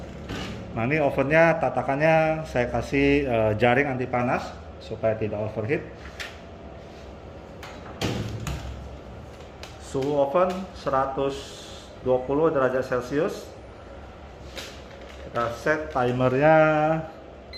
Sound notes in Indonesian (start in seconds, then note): 0.2 suara pintu oven; 7.6 suara pintu oven; 17.3 suara beep